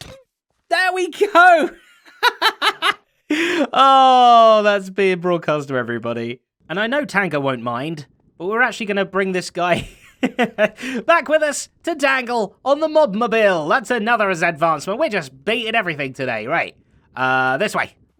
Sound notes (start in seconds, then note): 1.2 laughs; 9.7 chuckles